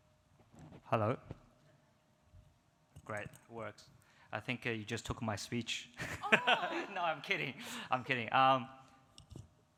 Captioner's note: laughs